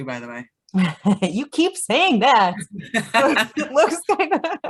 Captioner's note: laughing